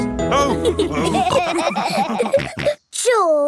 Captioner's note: all laughing